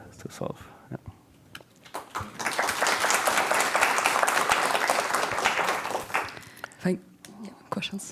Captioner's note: audience applauding